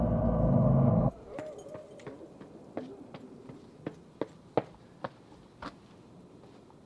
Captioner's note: footsteps on concrete steps